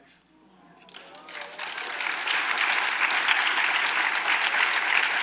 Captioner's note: audience applauds